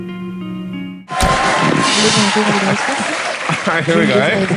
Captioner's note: audience cheers